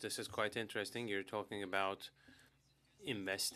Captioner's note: speaking French